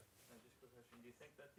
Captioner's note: voiceover